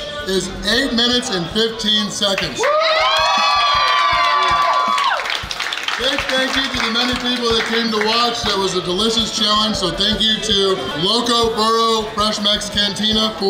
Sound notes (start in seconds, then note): 2.4 patrons cheering; 4.5 patrons clapping